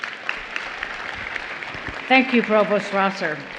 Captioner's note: applause